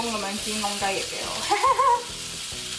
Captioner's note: giggles